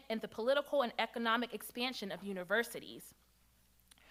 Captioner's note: none